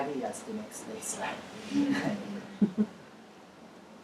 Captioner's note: laugh